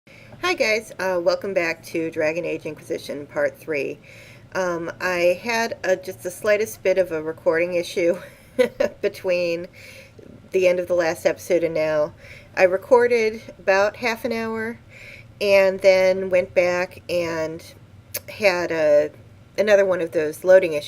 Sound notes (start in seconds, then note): 8.2 chuckling